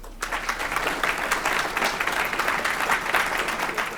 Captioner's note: crowd applauding